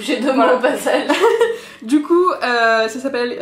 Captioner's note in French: rires